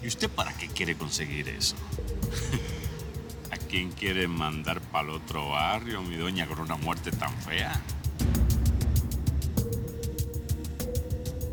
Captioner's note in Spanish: risas